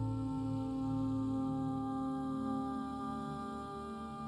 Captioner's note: none